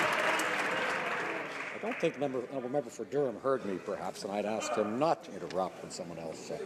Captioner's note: some Applause